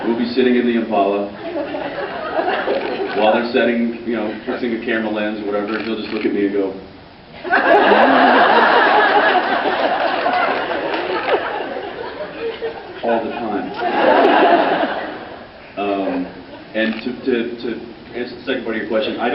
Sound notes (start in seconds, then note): 1.4 laughs; 7.4 laughs